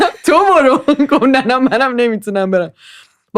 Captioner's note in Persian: خنده